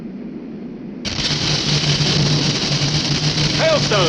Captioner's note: hail smashing